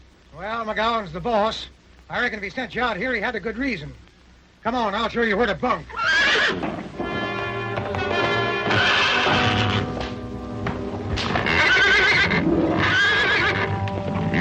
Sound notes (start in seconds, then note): 6.0 horse neighing; 7.0 dramatic music; 11.0 horse neighing